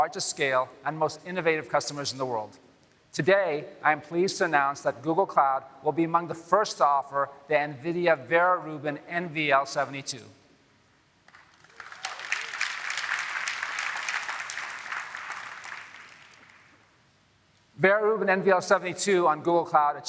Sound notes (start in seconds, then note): 15.2 applause